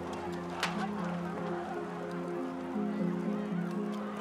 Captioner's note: crowd chattering